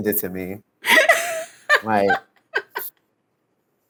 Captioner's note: laughs